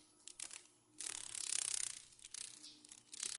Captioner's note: sounds of a dragon fly